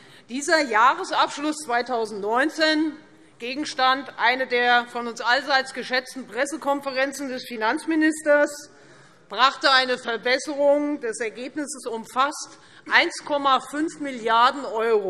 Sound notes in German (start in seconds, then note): none